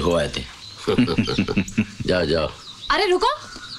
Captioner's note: Laughs